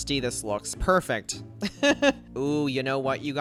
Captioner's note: laughs